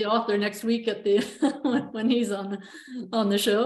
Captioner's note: chuckles